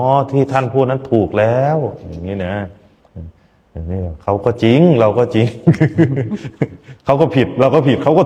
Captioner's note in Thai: เสียงหัวเราะ